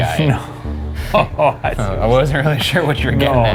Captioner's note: laughing